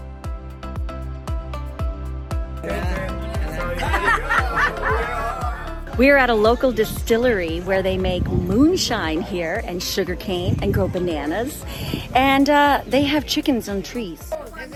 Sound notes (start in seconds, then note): 0.3 light music; 4.4 group laughing